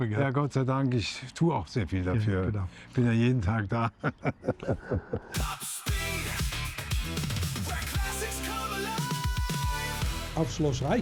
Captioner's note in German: gelächter